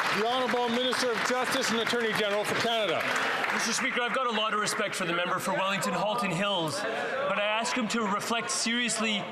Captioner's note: some Applause